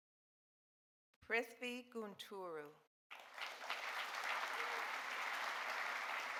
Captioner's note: audience applauding